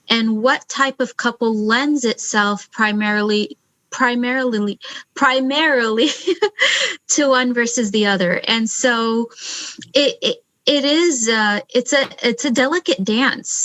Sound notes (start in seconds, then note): 3.9 laughs